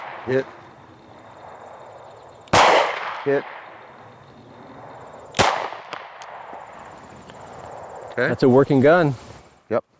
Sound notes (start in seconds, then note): 0.0 gun fires; 2.5 gun fires; 5.3 gun fires